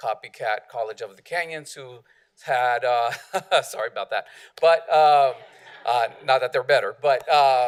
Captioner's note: laughter